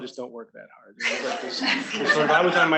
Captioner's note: students laughing